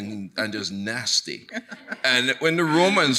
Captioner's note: chuckling